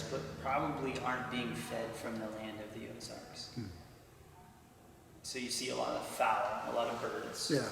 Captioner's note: none